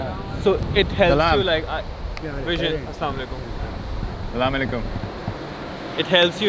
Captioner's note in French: Langue locale